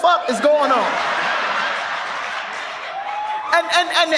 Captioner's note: audience laughs